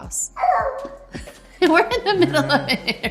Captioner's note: laughing; North yells